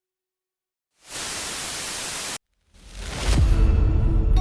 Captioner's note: static crackling; tense menacing music